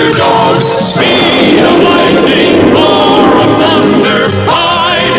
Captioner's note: lighting Strikes